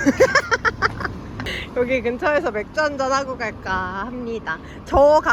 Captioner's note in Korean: ㅋㅋ